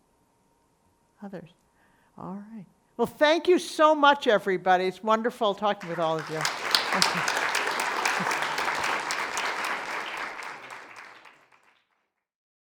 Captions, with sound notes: Others? All right, well thank you so much, everybody. It's wonderful talking with all of you. Okay. (audience applauding)